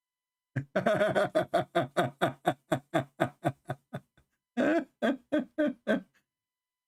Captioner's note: Ketawa